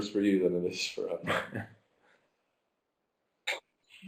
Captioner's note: laughing